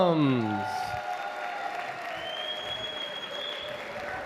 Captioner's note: applause